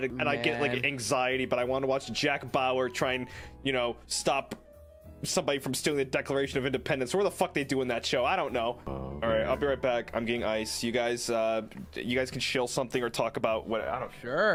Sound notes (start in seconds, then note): 8.8 humming